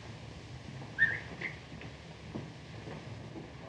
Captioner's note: harpo whistles